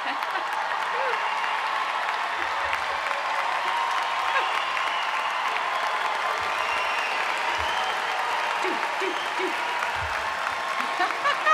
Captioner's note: applause